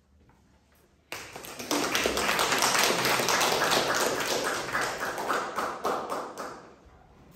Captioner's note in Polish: oklaski